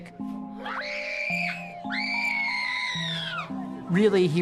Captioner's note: shrieking